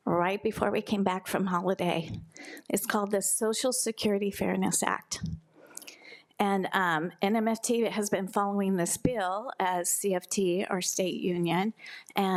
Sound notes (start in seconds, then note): none